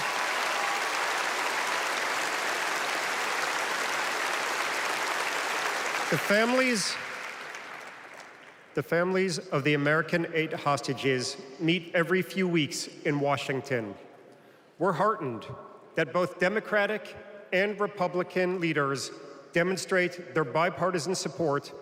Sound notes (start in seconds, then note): 0.0 applause; 7.6 applause